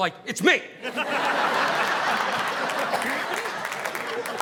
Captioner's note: audience laughing